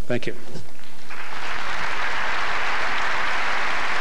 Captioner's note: applause